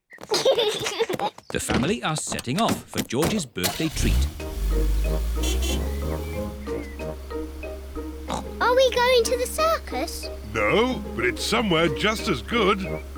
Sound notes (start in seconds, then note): 0.2 kids giggle; 4.5 horn honks; 8.2 oinks